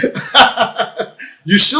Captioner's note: laughs